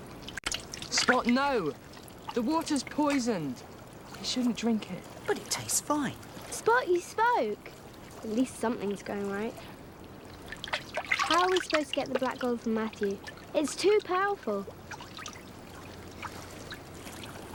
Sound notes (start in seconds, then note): none